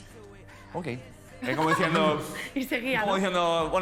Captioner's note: laughs